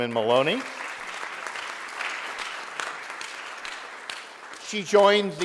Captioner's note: audience applauding